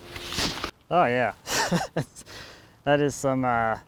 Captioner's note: laughs